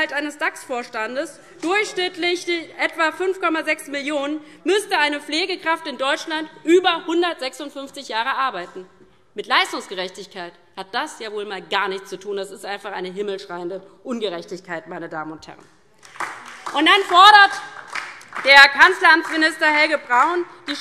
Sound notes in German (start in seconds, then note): 16.0 Beifall DIE LINKE